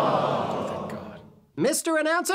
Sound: whispers

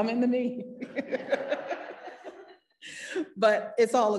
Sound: parents laughing

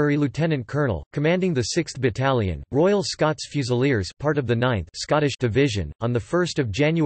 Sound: Scottish

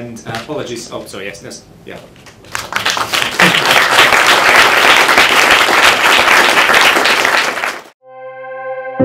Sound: applause

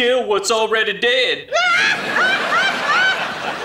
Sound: laughter

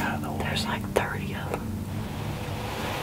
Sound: whispering

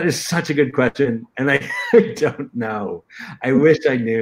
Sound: laughter

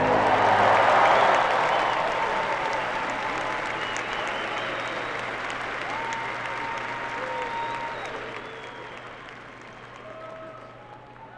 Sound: applause

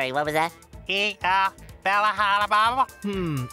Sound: talking gibberish

